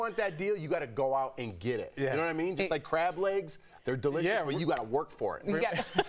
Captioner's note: laughter